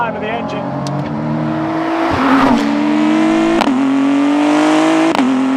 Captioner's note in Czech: řev motoru auta